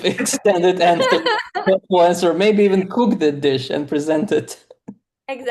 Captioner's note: laughs